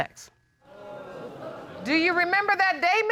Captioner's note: audience exclaiming